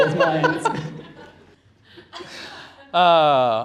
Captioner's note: laughter